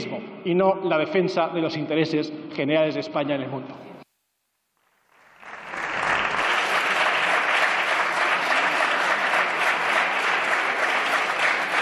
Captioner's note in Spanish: Aplausos